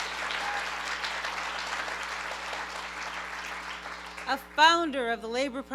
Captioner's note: applause; cheering